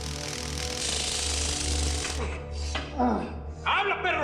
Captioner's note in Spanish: Sonido de descarga eléctrica; Gemidos